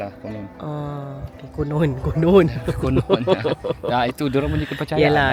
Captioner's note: laugh